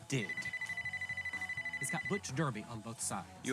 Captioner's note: phone ringing